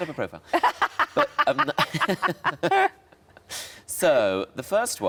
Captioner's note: laughing